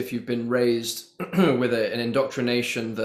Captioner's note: clears throat